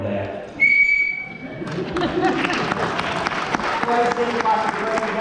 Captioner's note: whistle blows; applause